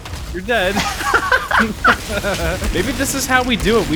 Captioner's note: laughs